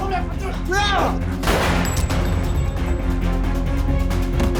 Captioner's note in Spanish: Disparo